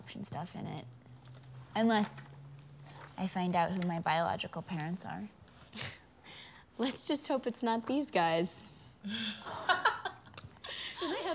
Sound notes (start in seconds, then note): 6.4 laughs; 9.2 girls laugh